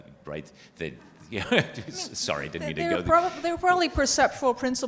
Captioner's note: chuckles